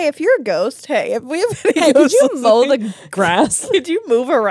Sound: laughs

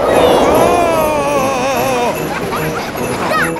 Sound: screaming; children laughing

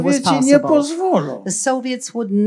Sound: foreign language

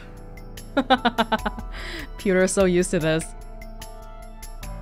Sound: chuckles

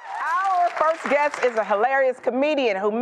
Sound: applause

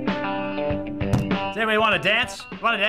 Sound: pounding table

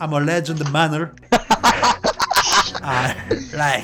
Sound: laughter

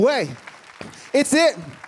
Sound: applause

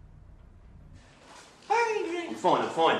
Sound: high voice

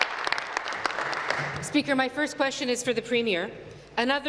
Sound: applause

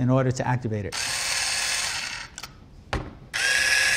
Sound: buzzing

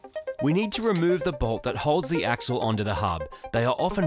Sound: voiceover

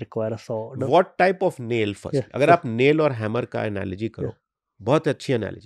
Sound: speaks hindi

